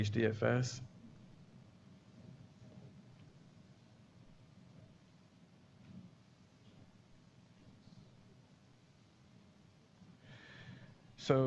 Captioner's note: pause